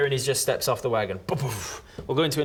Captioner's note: boof